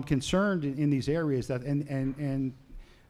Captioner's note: none